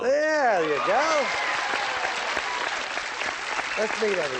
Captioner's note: applause